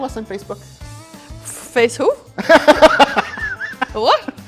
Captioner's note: laughter